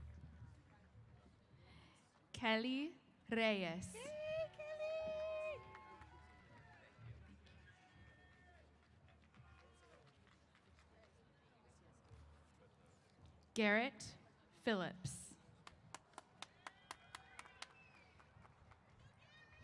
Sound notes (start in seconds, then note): 5.6 applause & Cheers; 15.4 applause